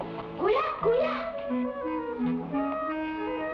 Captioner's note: boy speaking in Tagalog